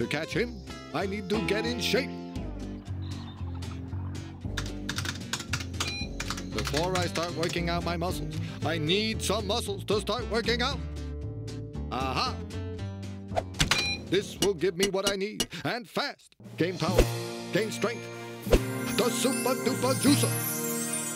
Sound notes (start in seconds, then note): 4.5 typing; 5.8 beep; 13.7 beeps